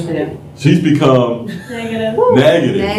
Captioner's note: laughter